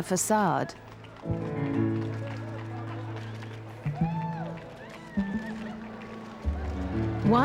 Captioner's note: crowd cheering; gentle music